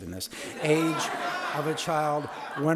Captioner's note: audience laughing